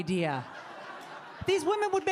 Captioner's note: audience laughing